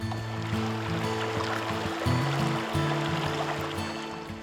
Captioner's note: nats river flowing